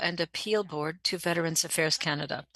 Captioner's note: speaking French